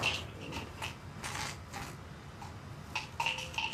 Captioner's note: pills rattling